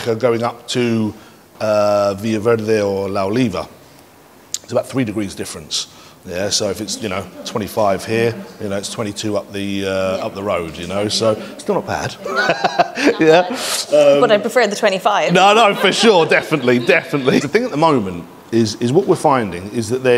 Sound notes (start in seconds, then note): 12.0 laughs